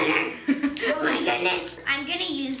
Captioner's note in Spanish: riendo